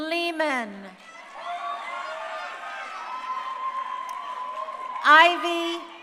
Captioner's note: crowd cheering